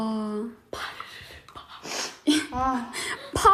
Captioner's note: ha ha